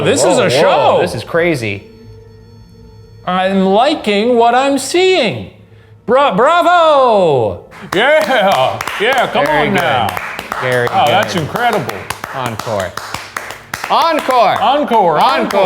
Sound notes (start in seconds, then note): 9.1 both applauding